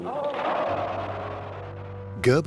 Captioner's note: cheering